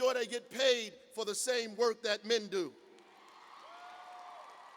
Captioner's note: cheers and applause